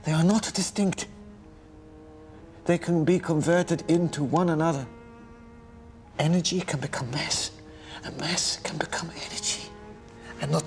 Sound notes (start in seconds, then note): none